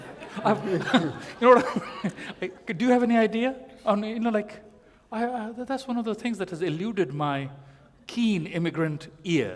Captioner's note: laughter